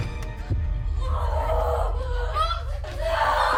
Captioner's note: Belle grunting and screaming